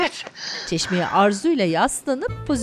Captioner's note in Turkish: Nefes sesi